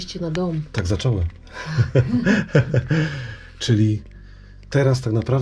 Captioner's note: both laughs